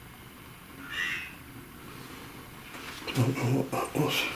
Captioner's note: device speaking